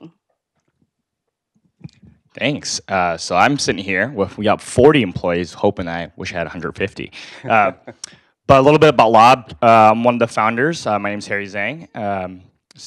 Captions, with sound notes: >> Thanks. So I'm sitting here. We've got 40 employees, hoping I wish I had 150. >> [LAUGH] >> But a little bit about Lob, I'm one of the founders. My name's Harry Zhang.